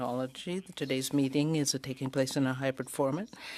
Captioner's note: speaking French